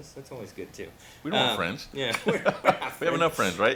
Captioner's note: laughs